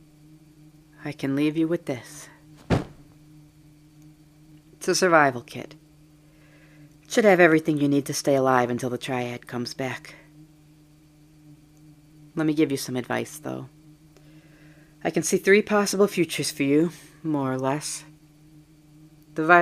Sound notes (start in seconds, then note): 2.6 thud